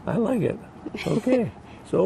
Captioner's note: chuckles